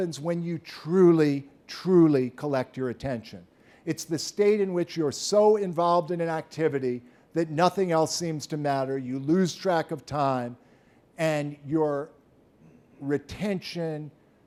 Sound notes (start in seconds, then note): none